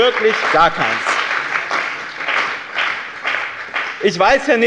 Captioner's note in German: Beifall bei dem BÜNDNIS 90/DIE GRÜNEN und der CDU